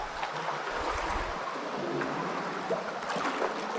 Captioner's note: sound of falling water